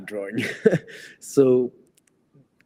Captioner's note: laughs